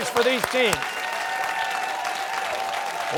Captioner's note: cheers and applause